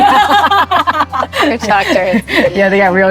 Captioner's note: both laughing